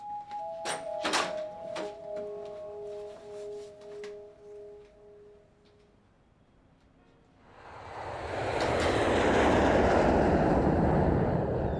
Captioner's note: dramatic Music; engine Revs